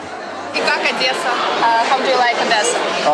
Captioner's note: speaks ukrainian